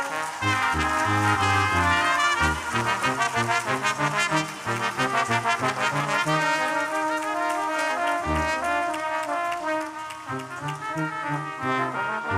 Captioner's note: applause